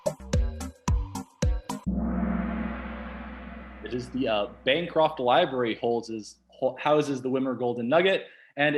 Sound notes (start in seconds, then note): 1.8 gong